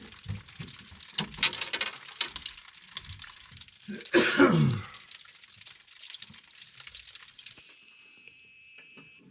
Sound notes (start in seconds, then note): 0.9 sighing; 3.8 coughing